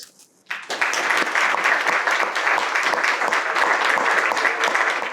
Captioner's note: audience applauding